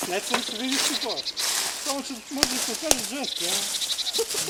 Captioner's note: hunters chattering